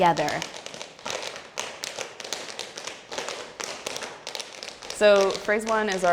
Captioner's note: tap dancing